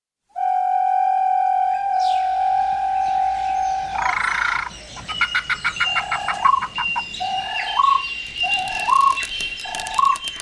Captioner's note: soundbite of wilderness ambience